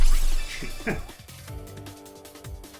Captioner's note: laughs